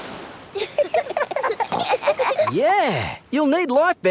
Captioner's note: giggling